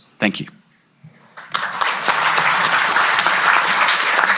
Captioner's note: applause